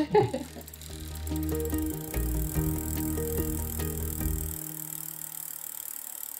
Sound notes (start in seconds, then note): 0.0 happy music and bicycle gears turning; 5.1 bicycle gears turning